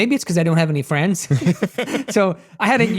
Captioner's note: everyone chuckling